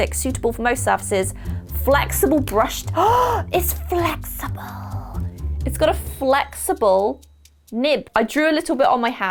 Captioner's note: gasp